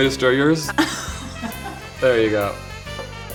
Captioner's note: Rosie chuckles